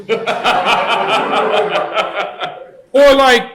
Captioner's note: laughter